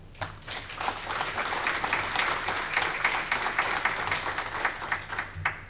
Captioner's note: audience clapping